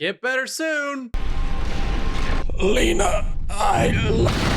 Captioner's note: explosion approaches; explodes cutely